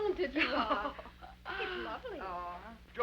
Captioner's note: Becky chuckles